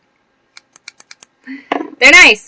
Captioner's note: snip snip snip